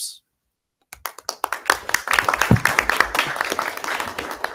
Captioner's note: audience applause